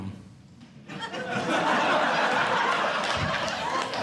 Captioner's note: audience Laughing